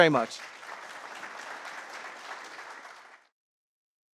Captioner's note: applause